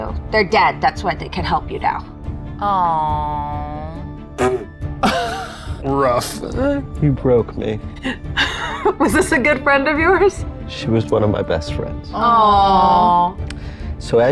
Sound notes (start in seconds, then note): 5.0 chuckling; 8.0 chuckles